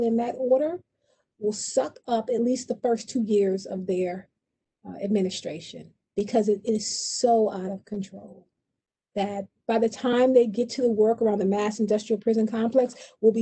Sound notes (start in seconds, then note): none